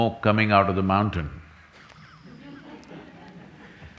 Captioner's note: few laugh